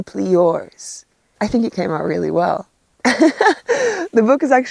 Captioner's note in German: lacht